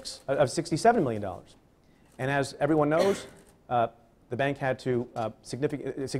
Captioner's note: cough